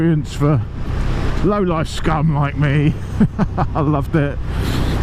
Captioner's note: laughs